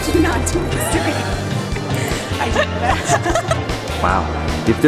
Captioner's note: laughter